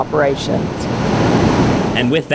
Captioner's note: rumbling